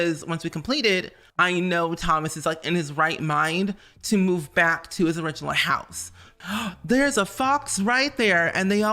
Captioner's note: gasp